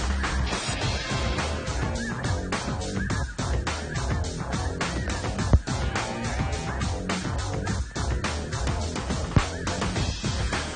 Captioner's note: geese honk